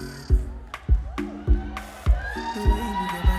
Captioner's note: crowd cheering and clapping